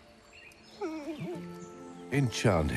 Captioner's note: whimpering